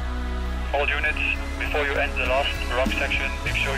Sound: man on radio

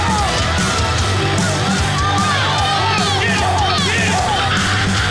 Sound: rock music; contestants yelling

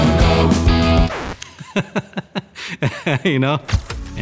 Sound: laughing

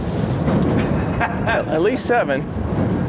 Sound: chuckling

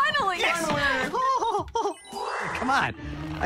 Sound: laughs

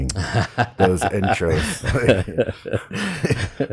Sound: laughs

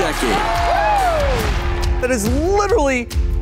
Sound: audience cheers

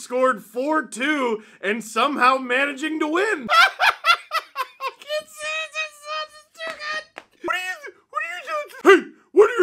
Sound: laughter

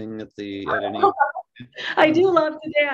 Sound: laughing

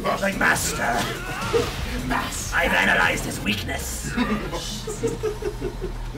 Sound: laugh; laugh

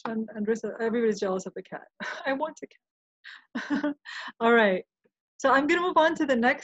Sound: laughing

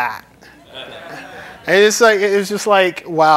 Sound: laughter

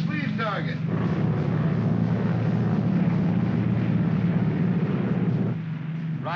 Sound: aircraft rumbles

